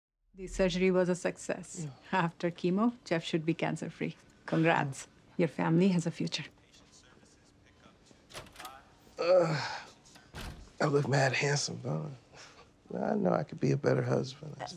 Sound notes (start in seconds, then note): 7.1 over P.A; 8.2 door opens, closes; 9.2 sighs; 9.8 over P.A